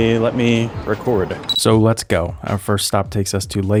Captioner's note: camera beeping